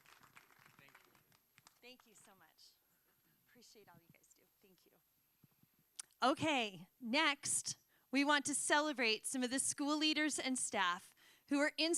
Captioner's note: applause